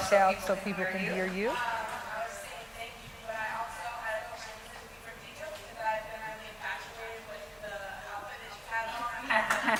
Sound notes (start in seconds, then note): 2.2 woman's Voice